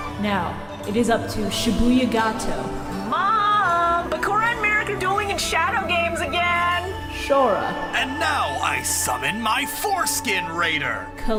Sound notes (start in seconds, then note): 2.9 Candice from Phineas and Ferb voice